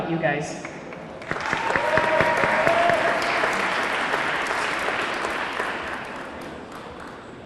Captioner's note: audience clapping; audience cheering